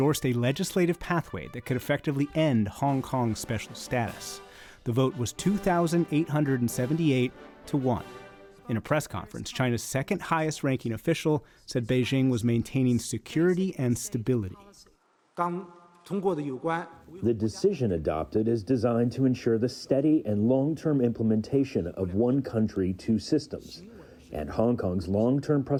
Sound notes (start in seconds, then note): 16.1 through translator